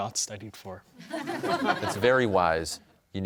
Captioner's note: audience laughs